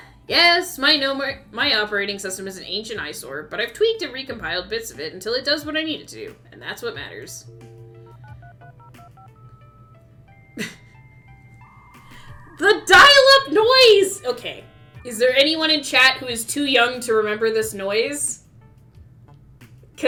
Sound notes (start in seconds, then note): 7.4 dial-up tone in background